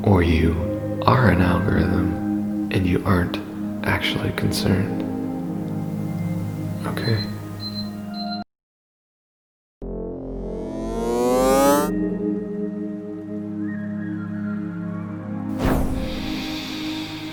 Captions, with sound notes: or you are an algorithm and you aren't actually concerned. Okay. [beeping] [winding up noise] [calm music] [puff]